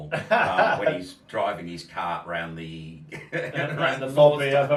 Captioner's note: laughs